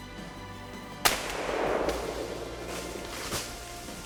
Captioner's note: gunshot